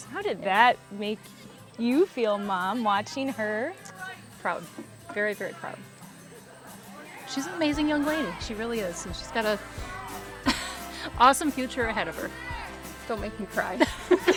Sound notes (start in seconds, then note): 10.6 laughs